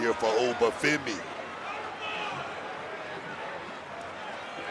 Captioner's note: audience cheering